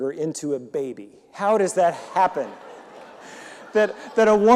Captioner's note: audience laughing